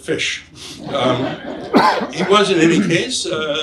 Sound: audience laughs

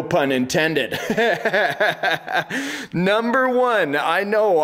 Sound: laughter

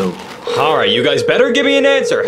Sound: phone ringing

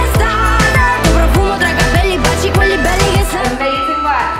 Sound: beeping

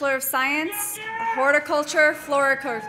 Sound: man shouting

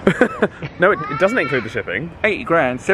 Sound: laughs

